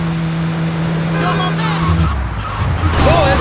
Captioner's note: tires screeching